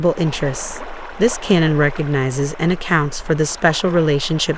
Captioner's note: running water